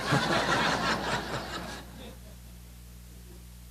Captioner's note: laughter